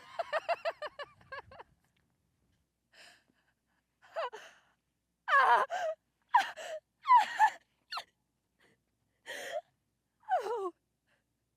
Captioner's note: laughs; crying